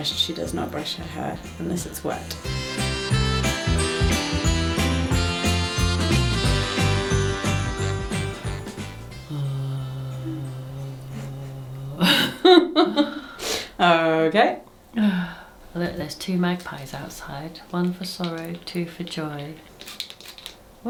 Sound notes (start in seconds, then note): 9.3 groans; 12.0 laughs